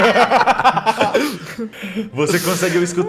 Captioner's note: laughter